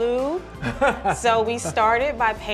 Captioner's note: laughs